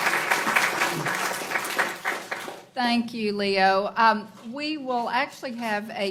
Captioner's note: applaus